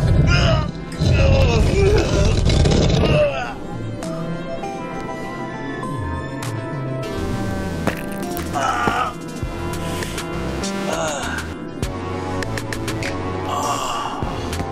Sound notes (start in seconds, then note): 1.0 Papi grunts; 8.4 Papi groans